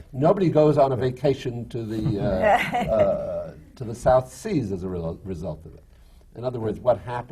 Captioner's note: laughter from the panel